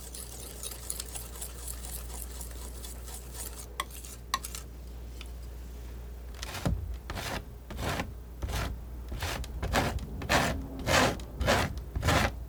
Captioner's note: scratching